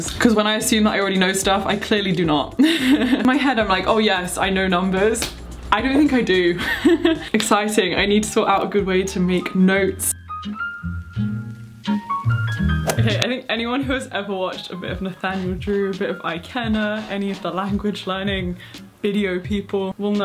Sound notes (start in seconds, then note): 2.6 chuckling; 6.6 chuckling; 10.4 soft music